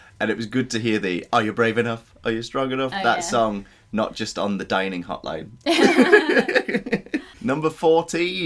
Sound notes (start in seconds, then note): 5.6 laughter